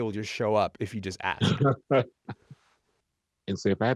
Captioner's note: chuckles